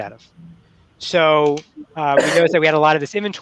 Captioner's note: sneezing